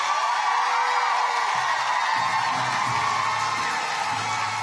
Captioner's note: audience cheers and applauds